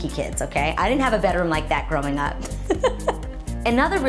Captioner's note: laughs